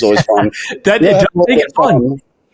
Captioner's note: laughing